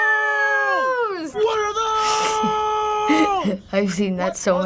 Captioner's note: laughs